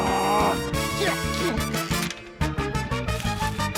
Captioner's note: grunts; strains